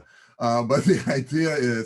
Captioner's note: chuckles